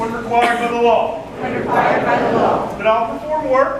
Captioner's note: crowd